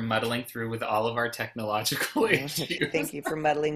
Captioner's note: laughs